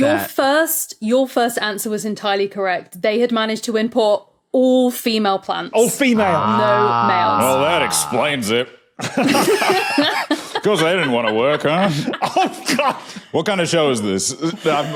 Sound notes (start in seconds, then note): 9.0 group laughing; 10.8 blurts laugh; 14.6 laughs flatly